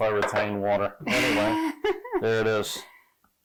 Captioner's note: laughing